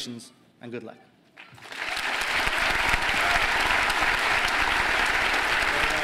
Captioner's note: applause